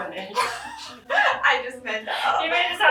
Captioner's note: laughing